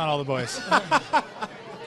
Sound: laughter

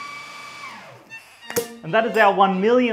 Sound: champagne pop

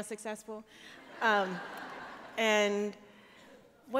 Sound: laughter

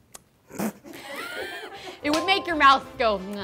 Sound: laughs

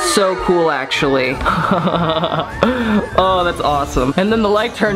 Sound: laughs

